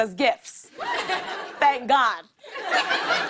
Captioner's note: laughter